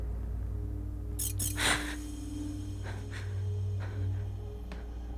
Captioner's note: electronic clicking